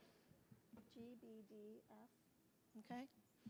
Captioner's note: speaking softly